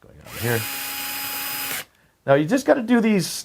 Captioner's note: screwdriver whirring